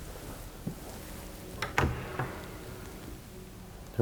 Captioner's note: opening and closing cabinets